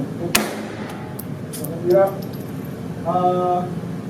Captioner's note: gunshot fires